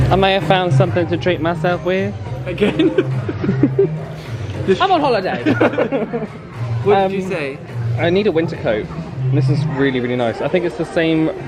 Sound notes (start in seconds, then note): 2.5 laughs; 5.3 both laugh